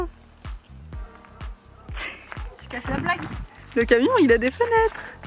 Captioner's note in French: Rires